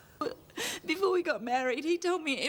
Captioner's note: Trina sobbing